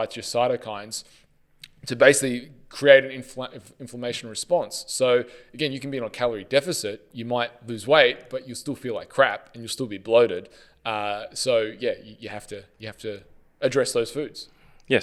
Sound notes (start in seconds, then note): none